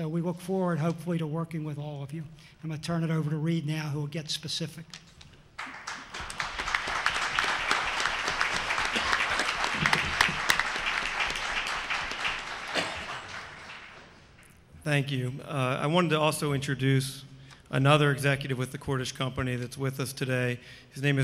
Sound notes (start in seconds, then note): 9.6 applause